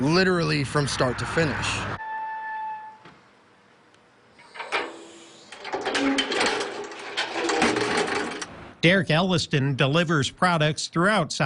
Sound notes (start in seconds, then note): 3.0 nat-truck noise